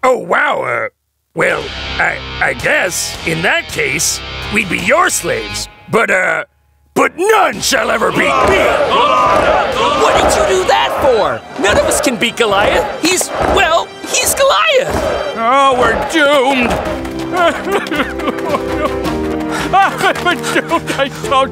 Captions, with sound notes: oh wow well I guess in that case we'd be your slaves but uh but none shall ever be beat! [chanting] Goliath Goliath What did you do that for? None of us can beat Goliath. He's well he's Goliath. Oh we're doomed! [King Saul crying]